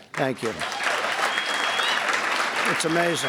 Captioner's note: applause